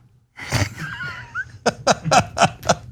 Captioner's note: laugh